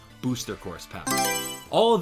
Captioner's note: Mario Selection Sound